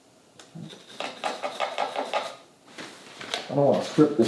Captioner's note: rag wiping